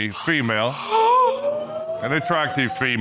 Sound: gasping

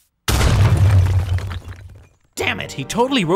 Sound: bricks crashing

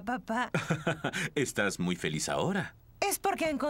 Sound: chuckling

